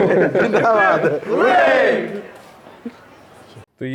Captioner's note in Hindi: हंसी